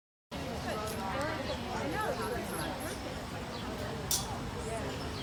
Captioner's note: birds chirping and background chatter